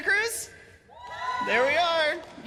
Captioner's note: cheers and applause